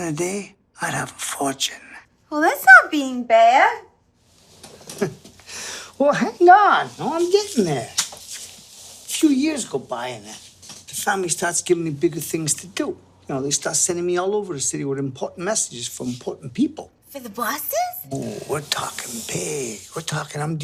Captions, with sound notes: At the end of the day I'd have a fortune. Well, that's not bein' bad. [he chuckles] Well, hang on, I'm getting there. A few years go by and the family starts givin' me bigger things to do. You know, they start sending me all over the city with important messages for important people. For the bosses? Oh, we're talkin' big. We're talkin'